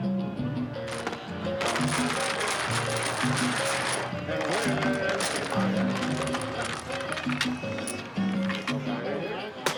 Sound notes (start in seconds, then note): 0.8 dominoes rattle; 4.3 upbeat music; 4.5 speaking foreign language